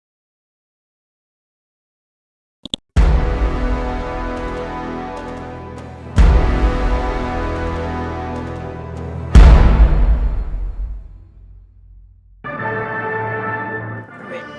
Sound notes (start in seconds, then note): 2.6 mouse clicks; 3.2 dramatic chord; 9.2 dramatic chord; 12.6 brash orchestral music